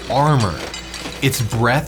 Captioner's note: metals clanging